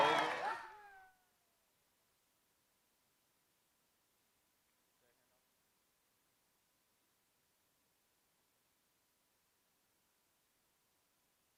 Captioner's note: applause